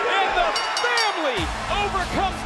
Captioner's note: bell rings